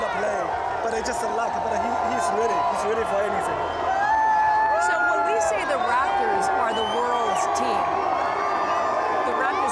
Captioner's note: cheering